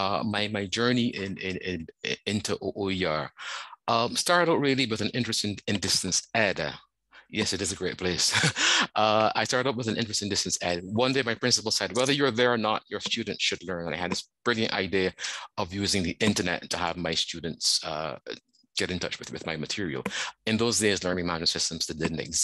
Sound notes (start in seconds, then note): 8.1 laughs